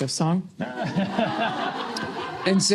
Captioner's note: laughter